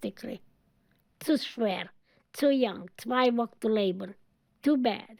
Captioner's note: speaking in German